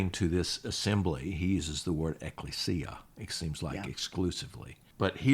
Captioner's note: speaks Greek